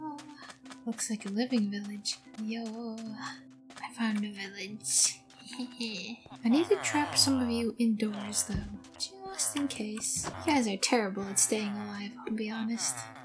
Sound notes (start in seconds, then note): 6.4 giggling